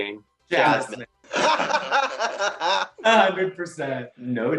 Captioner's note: laughing